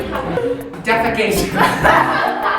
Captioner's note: scoffs; laughs